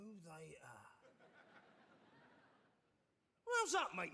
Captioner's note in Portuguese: audience laughing